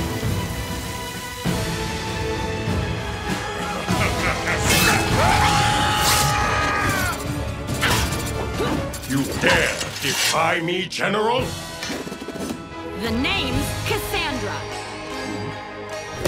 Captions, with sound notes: [laughing] [screaming] You dare defy me general? The name's Cassandra.